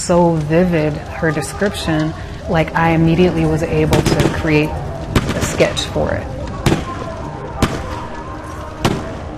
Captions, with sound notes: And it was just so vivid, her description, like, I immediately was able to create a sketch for it. (fire crackling, gunshots ring)